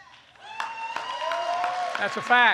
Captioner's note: applause